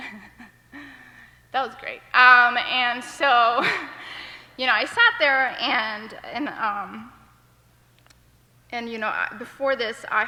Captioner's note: laughter